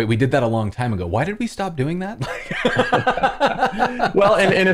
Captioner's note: laughter